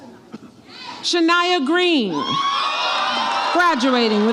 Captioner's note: audience applauds and cheers